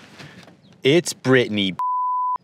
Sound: beep

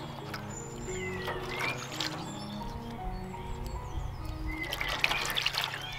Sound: water splashes

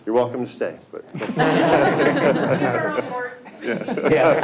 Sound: all laugh

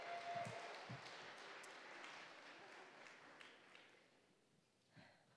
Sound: audience applauding

